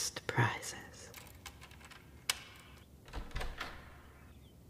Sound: keys jingle, lock turns, doors open

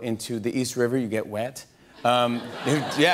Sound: audience laughter

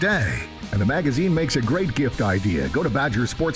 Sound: voiceover

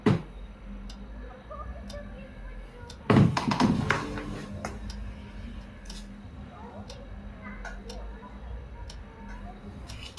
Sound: voices from the street

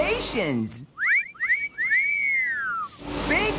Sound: whistles

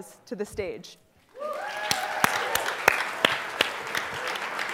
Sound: applause

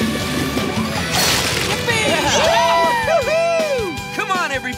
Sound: cheering

